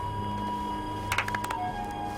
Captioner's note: clapping